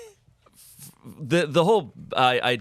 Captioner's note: laughs